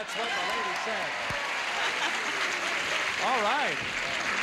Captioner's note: audience cheers